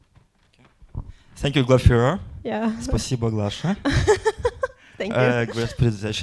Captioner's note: speaking in foreign language